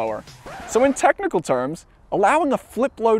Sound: record scratches

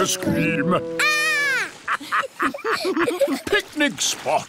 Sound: laughter

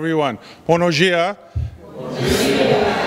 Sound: speaking in foreign language; audience responds in foreign language

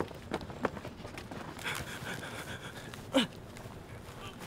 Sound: scrambling footsteps; struggling noises

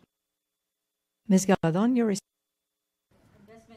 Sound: audio cuts out

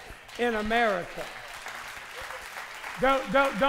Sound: applause

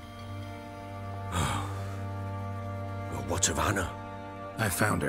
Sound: sigh

